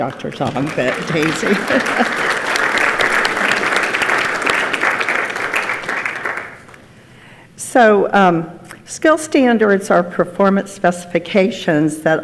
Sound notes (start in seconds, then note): 2.1 laughs; 2.1 participants clap